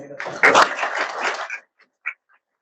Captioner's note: audience applauds